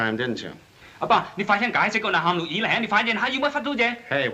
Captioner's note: responding in Chinese